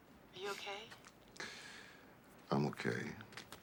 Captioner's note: sighs grimly